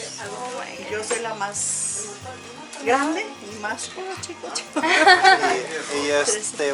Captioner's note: laughter